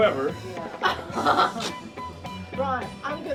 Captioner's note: laughs